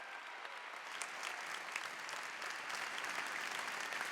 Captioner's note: applause